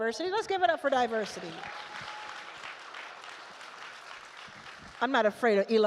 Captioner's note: attendees cheer